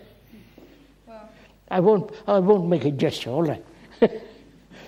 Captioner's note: laughs